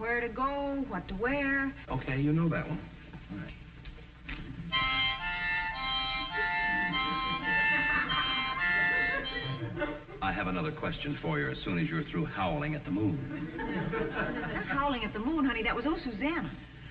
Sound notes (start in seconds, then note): 4.6 bad harmonica music; 8.9 audience snickering